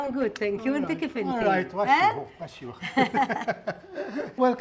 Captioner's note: both laughing